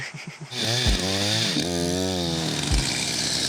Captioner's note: drilling